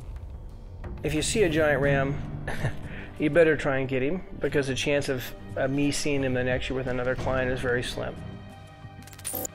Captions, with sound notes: If you see a giant ram [laughs] you'd better try and get him because a chance of me seeing him the next year with another client is very slim.